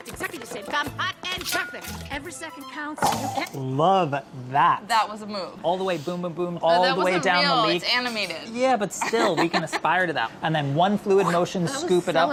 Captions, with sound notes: at exactly the same time, hot and perfect! Every second counts. - Love that! - That was a move! - All the way, boom boom boom, all the way down the leek. - But that wasn't real. It's animated [laughs]. - Yeah, but still, we can aspire to that. And then one fluid motion scoop it up with the--